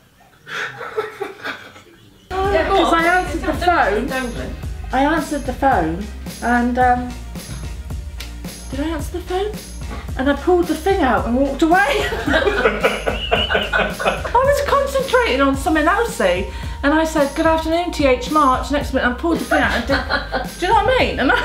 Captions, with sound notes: Cause I answered the phone And em, did I answer the phone? And I pulled the thing out and walked away. *laughter* I was concentrating on something else see… and I said “Good Afternoon, TH March”… Next minute I pulled the thing out… Do you know what I mean?